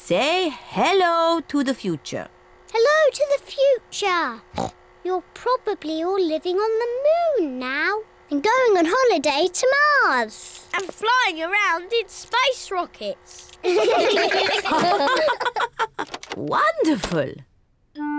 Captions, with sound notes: Say hello to the future. Hello to the future. (OINKS) You're probably all living on the moon now. And going on holiday to Mars. And flying around in space rockets. (ALL LAUGH) Wonderful.